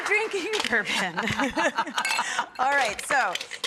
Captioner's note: laughter